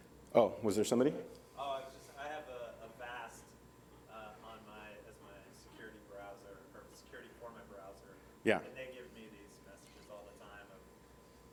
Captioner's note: speaking off microphone